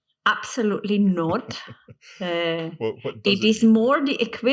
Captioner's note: chuckles